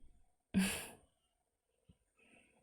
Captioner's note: chuckles